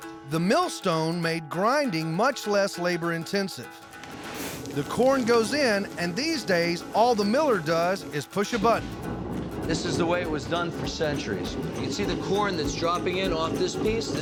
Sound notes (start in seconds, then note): 8.5 rumbling sound